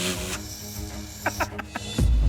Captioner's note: laughs